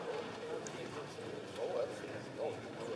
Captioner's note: applause